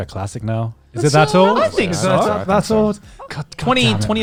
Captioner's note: chatters